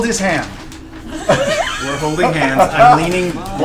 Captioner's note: all laugh